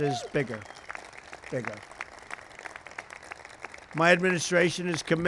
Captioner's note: applause